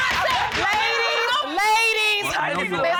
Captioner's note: gavel pounding